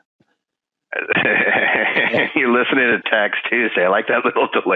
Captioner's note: laughing